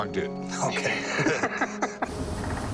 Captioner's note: laughs